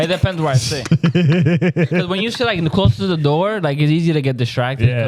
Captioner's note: laughing